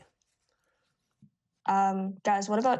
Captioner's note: none